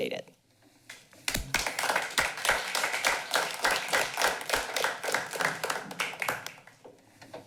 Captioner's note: applause